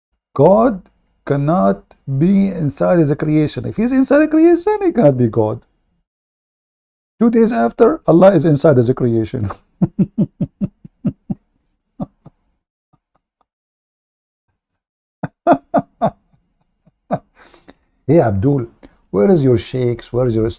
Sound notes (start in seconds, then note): 9.4 Ketawa